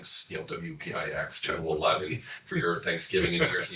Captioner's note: laughs